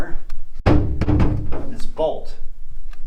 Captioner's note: door banging